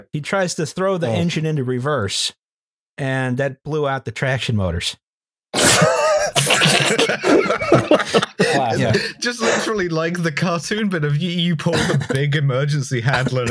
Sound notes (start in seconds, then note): 5.6 laughter